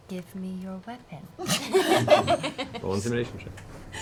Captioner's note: laughter